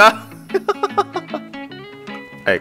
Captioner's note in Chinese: 笑聲